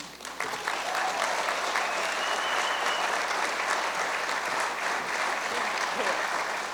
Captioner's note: cheers and applause